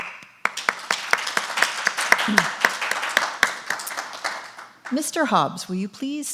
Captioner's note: audience applause